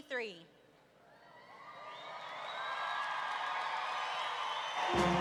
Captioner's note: roaring cheer